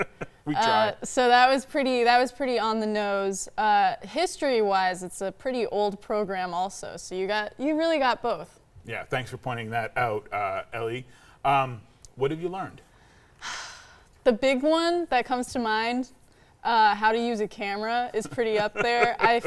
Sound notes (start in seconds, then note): 13.5 sighing; 18.2 laughing